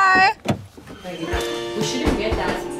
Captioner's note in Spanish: Charla de fondo